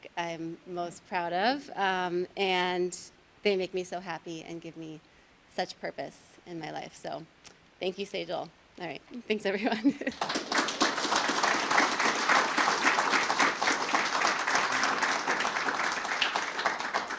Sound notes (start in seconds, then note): 10.0 audience applauding